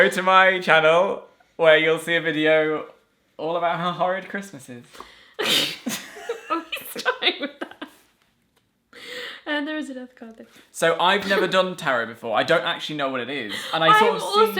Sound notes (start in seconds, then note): 5.8 laughter